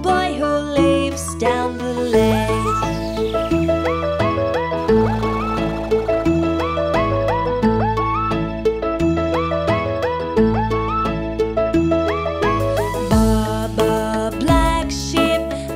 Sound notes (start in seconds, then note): 2.1 beeps mechanically; 3.3 bright music